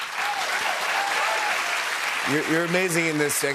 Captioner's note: cheers and applause